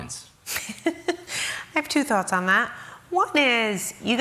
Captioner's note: laughs